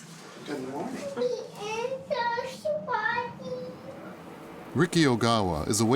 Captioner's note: baby moaning